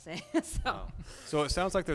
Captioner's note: laughs